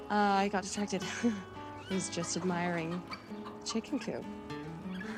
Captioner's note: chuckles